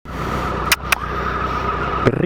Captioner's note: dog